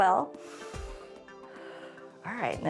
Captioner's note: inhales and exhales